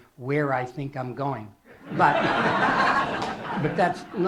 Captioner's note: laughter